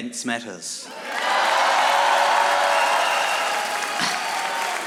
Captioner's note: audience applauding